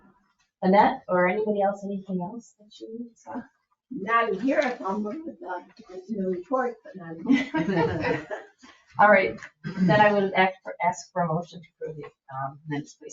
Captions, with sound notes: Annette or anybody else, anything else that you saw? Not in here, in the report, but not in here. (members chuckling) All right, then I would ask for a motion to approve the minutes, please.